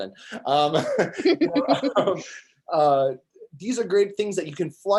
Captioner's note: both laughing